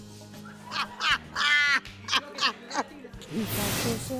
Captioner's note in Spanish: Carcajadas